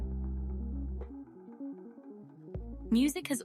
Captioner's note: narrator over music